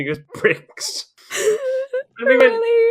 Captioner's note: laughs